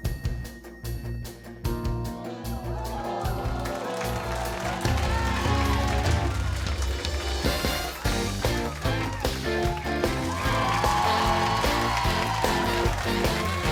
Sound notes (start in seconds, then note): 3.2 cheering; 7.7 upbeat music; 10.4 cheering